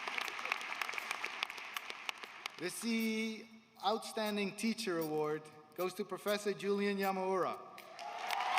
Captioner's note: applause